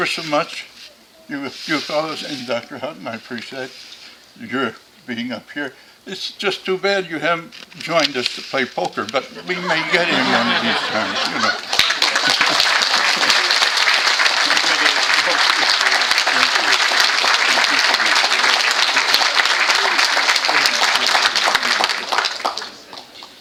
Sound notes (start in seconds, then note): 16.2 applause